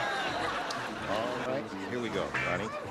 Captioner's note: laughter